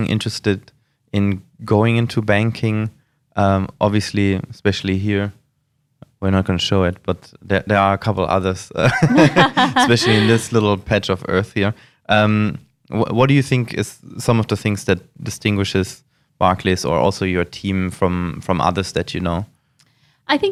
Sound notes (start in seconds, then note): 8.9 laughs